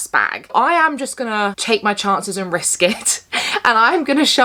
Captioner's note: chuckles